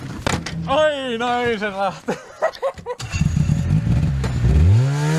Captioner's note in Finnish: naurua